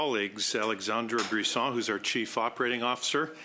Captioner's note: speaking in French